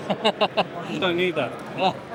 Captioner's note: laughs